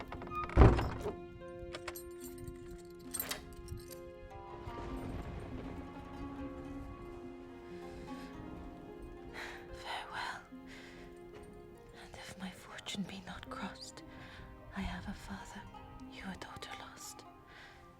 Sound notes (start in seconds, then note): 4.5 thunder; 9.3 sighs